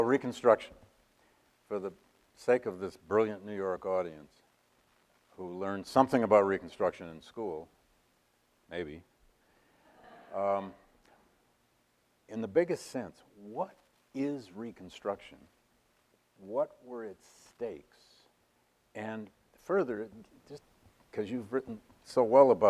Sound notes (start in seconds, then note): 9.9 audience laughs